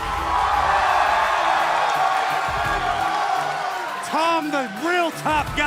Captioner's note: crowd cheering